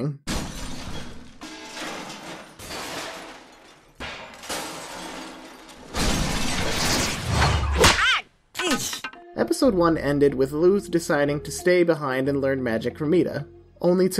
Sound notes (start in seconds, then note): 0.3 distant rattling and crashing; 7.2 blow lands; 7.8 yelps; 8.5 staff clatters